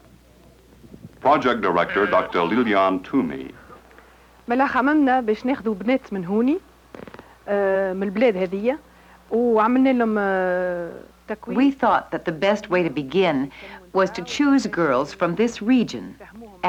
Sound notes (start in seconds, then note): 4.2 speaking Arabic